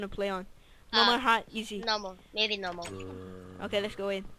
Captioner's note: clicks